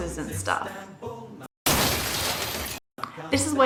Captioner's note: glass shatters dramatically